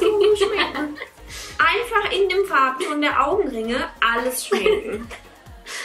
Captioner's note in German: lacht